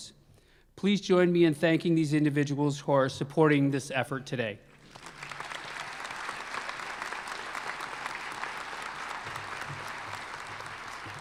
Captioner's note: applause